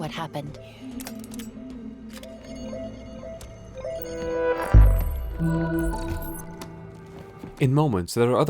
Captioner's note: beacon hums